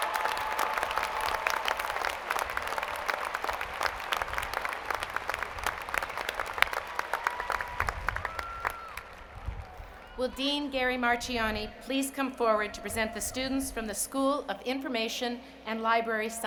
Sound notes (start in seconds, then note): 6.8 applause